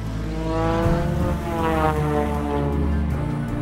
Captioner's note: plane roaring